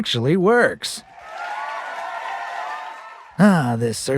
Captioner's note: raucous applause and cheering